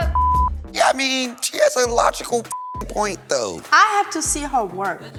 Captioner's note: beep; beep